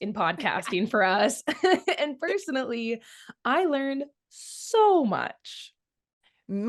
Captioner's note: laughs